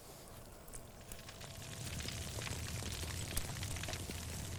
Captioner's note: fire crackling